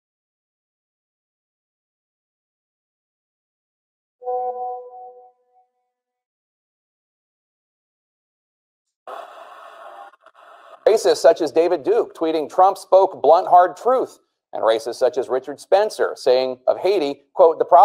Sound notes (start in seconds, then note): 4.2 message tone rings